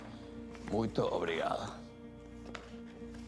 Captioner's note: speaking Spanish